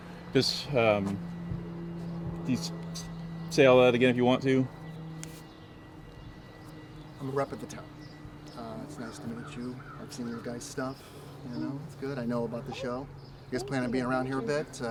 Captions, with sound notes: Eh, ¿podrías repetir todo eso si quieres? (zumbido de un avión) - Soy representante de la ciudad. Eh, encantado de conocerte. He visto vuestro trabajo. Sabéis, es bueno. Conozco el programa. ¿Piensan quedarse por aquí un tiempo?